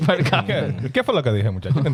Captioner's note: speaking In Foreign Language